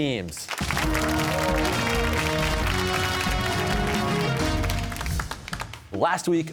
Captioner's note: cheers and applause